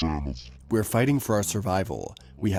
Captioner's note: through translator